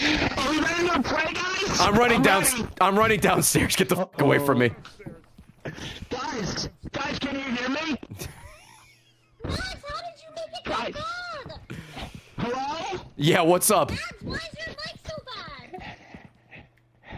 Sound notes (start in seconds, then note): 0.0 laughs; 8.0 laughs